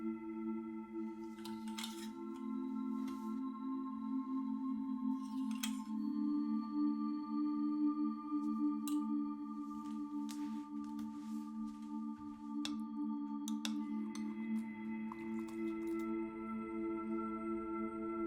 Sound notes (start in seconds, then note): 1.1 hangers clanging; 13.4 spoon clanging; 15.1 milk splashing